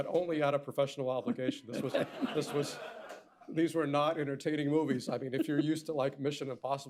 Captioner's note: laughter